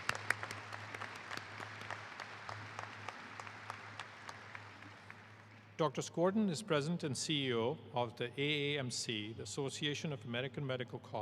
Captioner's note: applause